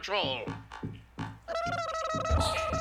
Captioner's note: jeering